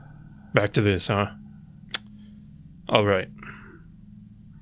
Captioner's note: clicks tongue